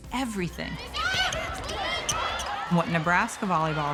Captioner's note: athletes shouting